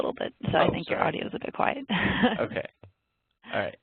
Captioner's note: laughs